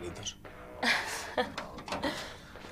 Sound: laughs

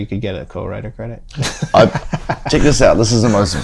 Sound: laughter

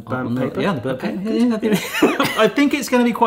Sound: both laugh

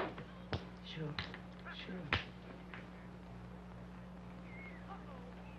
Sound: metal clanging

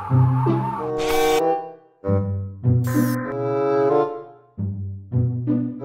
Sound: whirring

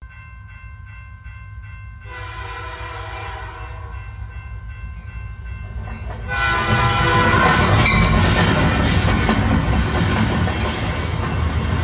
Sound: sound Effect: Train and Crossing Bell

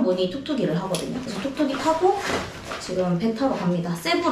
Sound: none

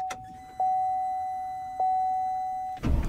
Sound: fuel pump whine

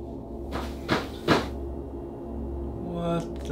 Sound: gentle foreboding music continues; wood rattling

